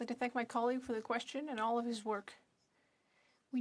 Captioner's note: speaking french